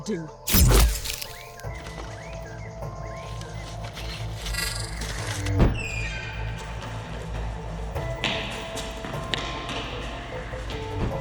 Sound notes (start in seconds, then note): 0.4 laser gunshot; 0.4 fleshy impact; 3.9 creeping digital glitches; 5.4 door creaking; 7.9 loud bootsteps